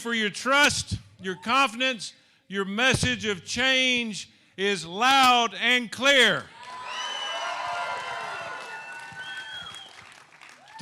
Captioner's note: applause